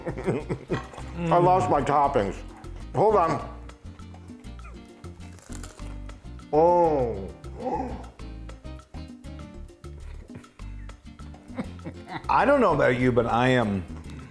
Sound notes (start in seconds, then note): 0.0 laughing; 4.6 taco crunching